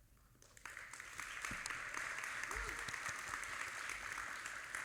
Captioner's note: audience applauding